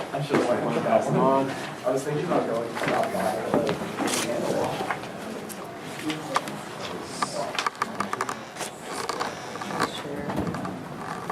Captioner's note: students talking amongst themselves